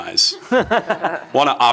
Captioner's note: laughs